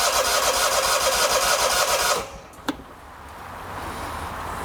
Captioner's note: engine firing